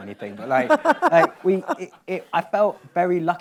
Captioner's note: laughs